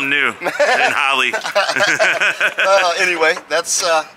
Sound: both laughing

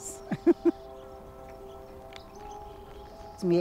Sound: laughs

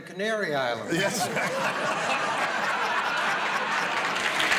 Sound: laughter; applause

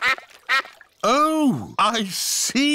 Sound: quacking

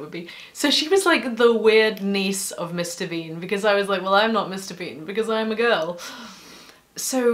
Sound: sigh

